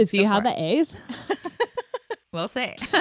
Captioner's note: laughs